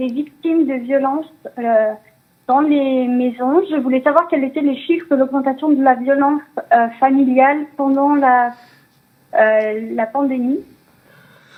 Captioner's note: speaking French